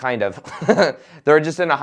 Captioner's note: laughs